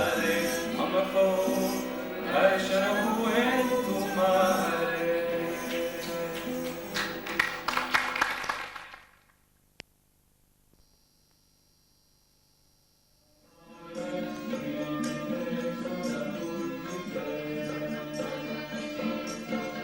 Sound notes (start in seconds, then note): 6.3 claps